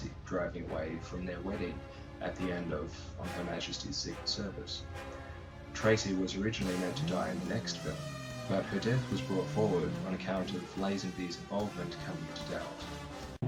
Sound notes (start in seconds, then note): 6.9 engine revving